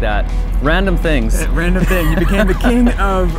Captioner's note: both laugh